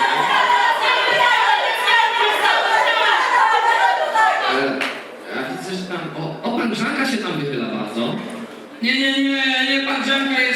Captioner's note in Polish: Aplauz